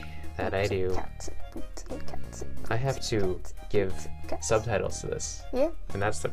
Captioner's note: beatboxing